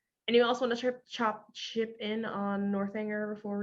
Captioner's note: none